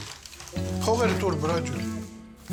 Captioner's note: speaking Armenian